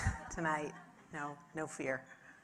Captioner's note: audience laughing